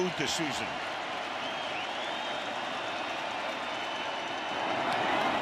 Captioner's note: crowd cheering